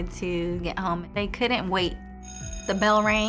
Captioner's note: school bell rings